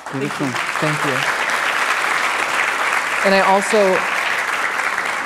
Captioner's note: applause